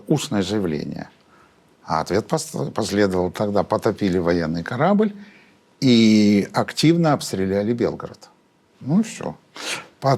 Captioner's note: Russian